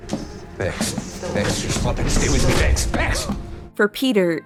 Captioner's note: background voices echoing